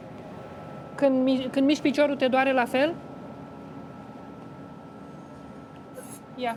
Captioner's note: speaks Romanian